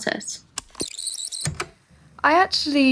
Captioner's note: the tape whirrs fast forwarding and then plays